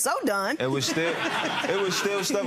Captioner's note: spectators laughing